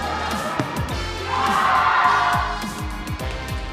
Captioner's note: cheers